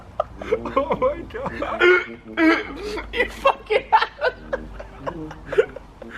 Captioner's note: laughing; laugh